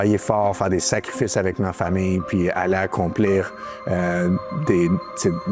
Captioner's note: speaking french